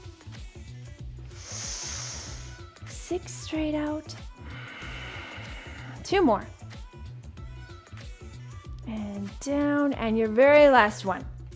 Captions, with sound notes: (inhales) Six, straight out. (exhales) Two more. And down. And your very last one.